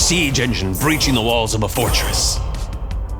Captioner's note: chanting